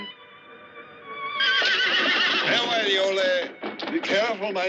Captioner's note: horse whinnies